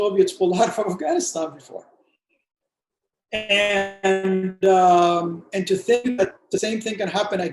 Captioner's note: distortion